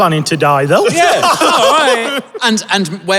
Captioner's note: laughs